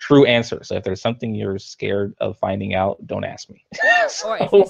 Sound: laughs

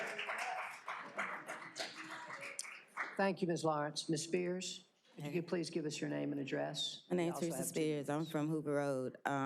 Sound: applause

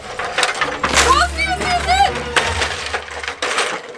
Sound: loud rattling

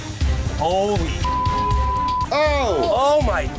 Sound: beeping

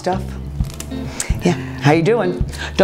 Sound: eggs cracking

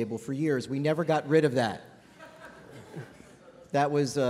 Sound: laughter

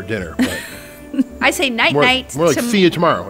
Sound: laughs

